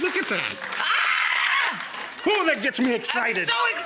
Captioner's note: screams